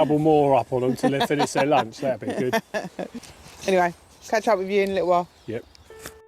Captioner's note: laughter